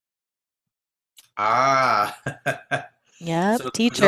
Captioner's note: chuckles